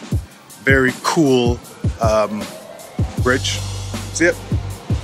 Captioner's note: train whirs